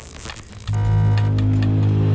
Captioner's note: detector buzzes; ominous tone